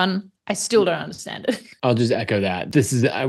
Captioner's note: chuckles